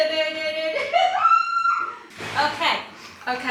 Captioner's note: laughing